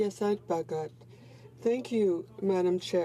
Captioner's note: speaking French